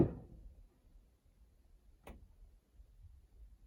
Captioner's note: sound of the hammer on the beam